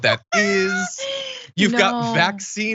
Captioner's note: laugh